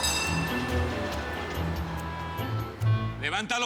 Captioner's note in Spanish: Timbre del bus